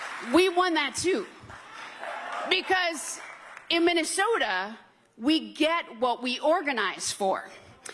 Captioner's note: applause